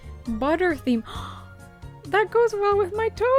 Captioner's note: gasp